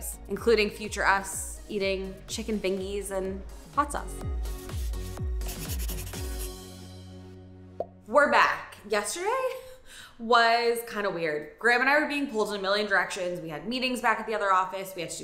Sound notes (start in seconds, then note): 4.3 upbeat music; 5.4 pen scraping